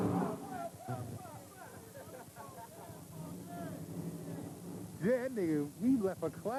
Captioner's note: chuckling